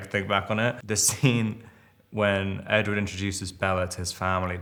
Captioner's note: Robert chuckles